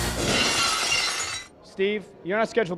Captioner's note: glass shatters